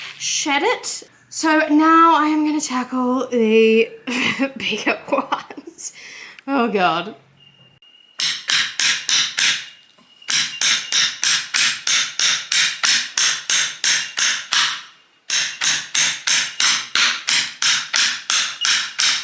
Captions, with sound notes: shed it. So now I am going to tackle the bigger ones *laughs nervously*. Oh god! *hammering and bark tearing sounds*